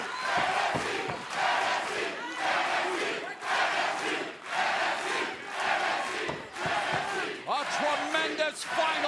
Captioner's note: crowd cheering